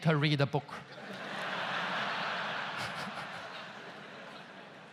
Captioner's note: audience laughs loudly